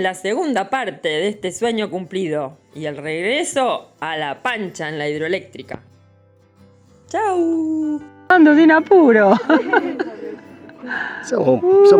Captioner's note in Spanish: risas